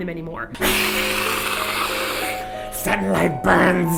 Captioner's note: make Hissing-Vampire sounds